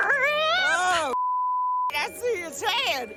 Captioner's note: beep